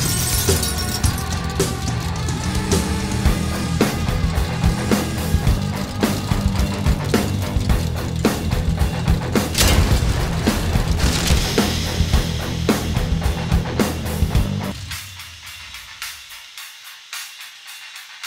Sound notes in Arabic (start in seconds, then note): 9.3 انهيار صاخب